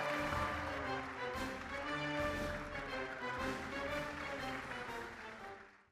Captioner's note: applause